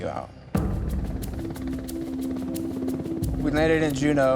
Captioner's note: helicopter blades thumping